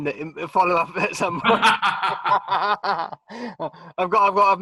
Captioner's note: both laughing